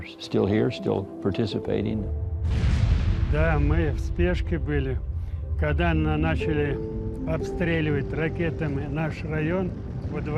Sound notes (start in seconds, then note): 2.2 explosion booms; 3.8 speaking in foreign language